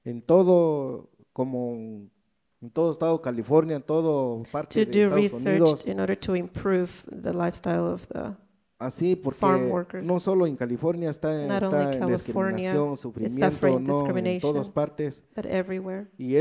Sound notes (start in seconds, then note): 9.8 speaks in foreign language